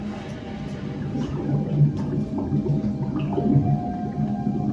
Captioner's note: suspenseful music; water bubbling